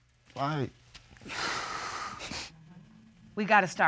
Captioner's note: exhales, sniffles